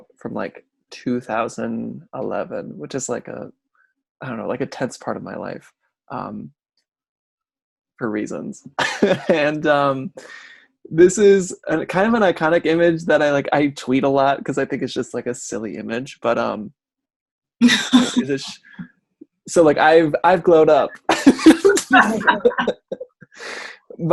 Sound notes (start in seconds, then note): 8.8 laughs; 17.8 laughs; 20.7 laugh